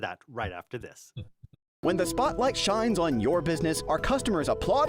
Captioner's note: voiceover